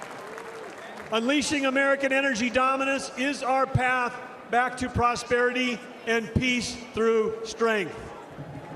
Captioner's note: applause